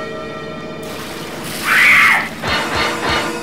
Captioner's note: water spill; scream